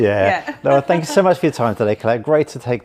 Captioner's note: laughs